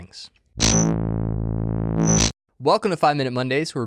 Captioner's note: loud buzz